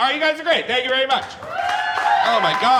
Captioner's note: audience cheering